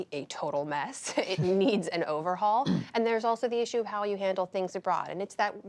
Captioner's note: laughter